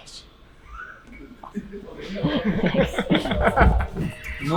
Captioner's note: laughing